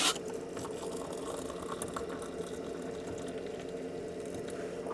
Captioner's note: sound of water pouring